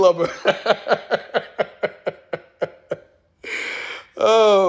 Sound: laughs

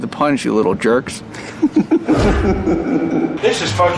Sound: laugh

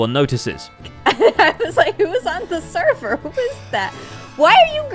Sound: laughs

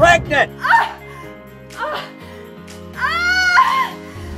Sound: screaming

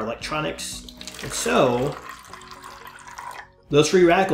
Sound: water pouring

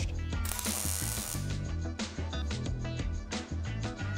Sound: buzzing

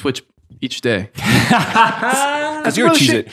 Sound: laughing

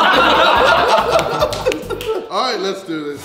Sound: laughing

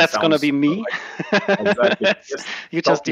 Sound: laughs

